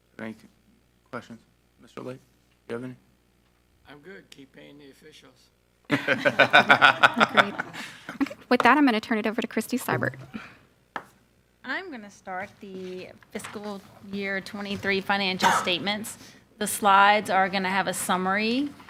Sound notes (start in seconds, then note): 5.9 all laughing